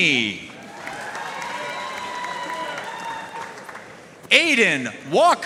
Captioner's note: audience cheering and applauding